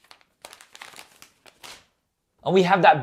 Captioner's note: plastic rustling